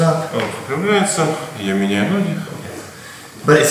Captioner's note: speaking in a foreign language